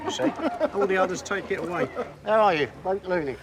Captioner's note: laughing